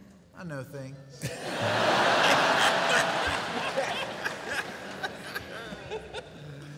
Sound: laughter

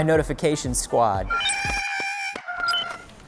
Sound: Porg sounds

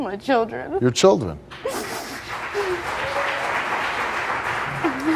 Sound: audience applause

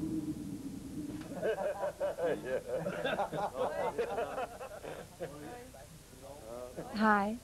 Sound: festive Laughter

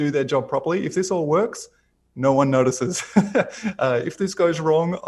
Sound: laughs

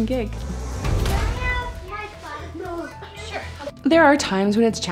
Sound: kids chattering

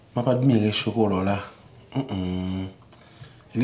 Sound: humming

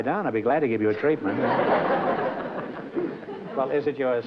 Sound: laughter

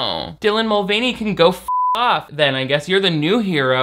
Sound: beep

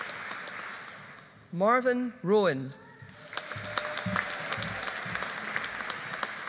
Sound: audience applauding

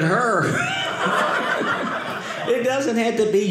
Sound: audience laughing

